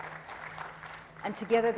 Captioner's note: audience applauds